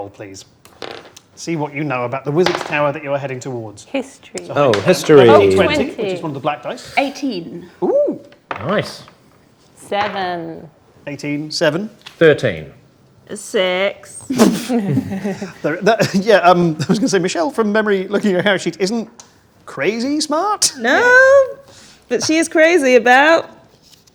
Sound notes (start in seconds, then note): 5.4 overlapping chattering